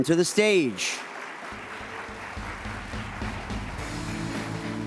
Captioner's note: audience applauds